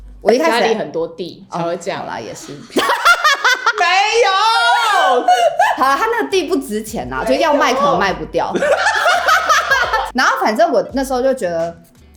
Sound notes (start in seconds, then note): 2.7 yelling